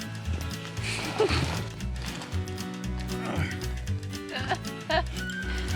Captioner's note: laughing